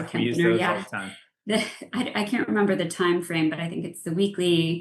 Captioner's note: laughs